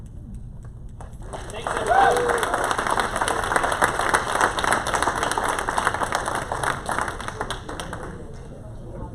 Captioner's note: applause